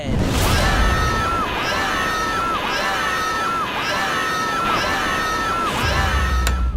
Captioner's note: screaming